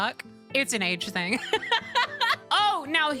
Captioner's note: laughter